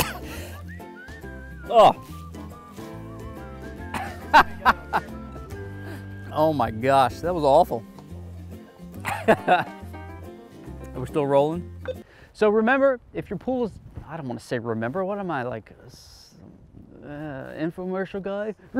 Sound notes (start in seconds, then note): 0.3 upbeat music; 3.9 laughing